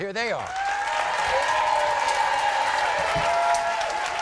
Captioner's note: crowd cheers